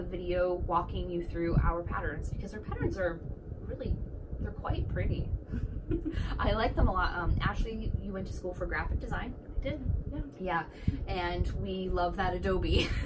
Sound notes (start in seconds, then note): 5.7 chuckle